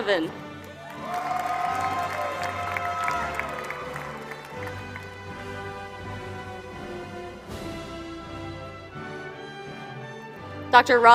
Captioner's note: applause